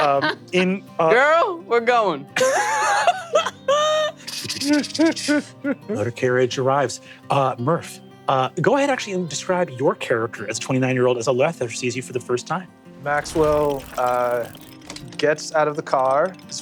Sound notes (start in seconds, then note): 2.4 laughs